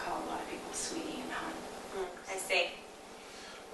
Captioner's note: grunts agreement